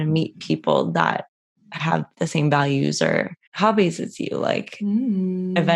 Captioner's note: mmm